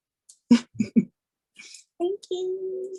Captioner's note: giggles